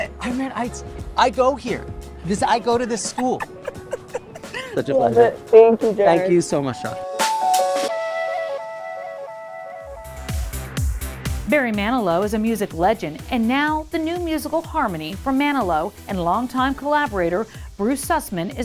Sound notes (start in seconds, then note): 2.5 laughs; 8.1 mellow music fades; 10.3 upbeat music